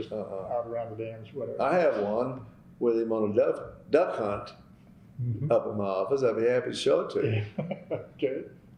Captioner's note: laughter